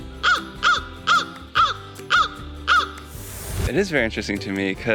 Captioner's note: crow sounds